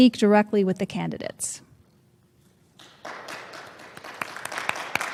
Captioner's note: applause